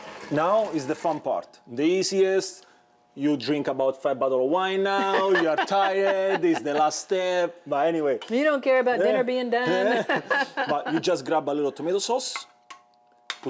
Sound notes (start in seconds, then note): 4.9 laughs; 9.6 laughs